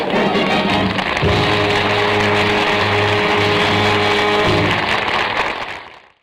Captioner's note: audience laughter; applause